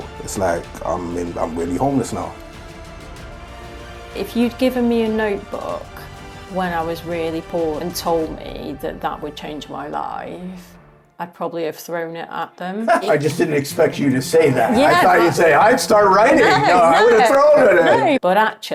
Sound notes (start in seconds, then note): 2.9 high intensity music; 12.8 laughing